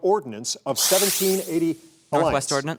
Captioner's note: electronic buzzer sounds